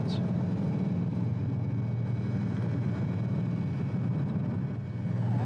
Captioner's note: airplane engines roaring